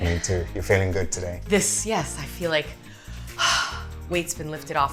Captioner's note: exhales